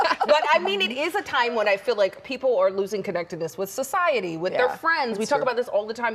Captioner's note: laughter